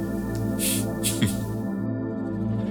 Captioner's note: chuckles